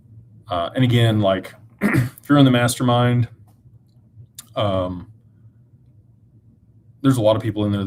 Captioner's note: clears throat